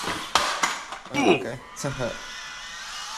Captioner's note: Minecraft "oof" sound effect